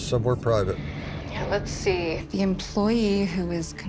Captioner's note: on phone